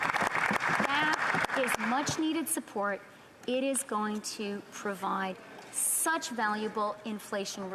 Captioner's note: applause